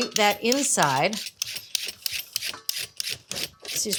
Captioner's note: peeler scraping